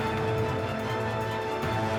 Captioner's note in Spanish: ruido del motor